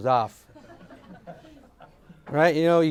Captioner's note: audience laughs